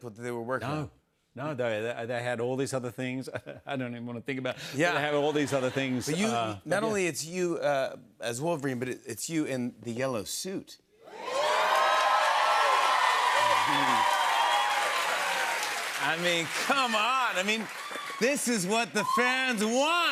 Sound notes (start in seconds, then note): 11.1 cheers and applause